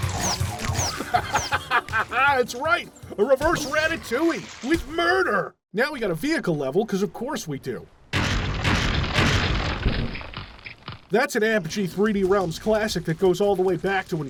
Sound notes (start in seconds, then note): 1.0 cackles like a madman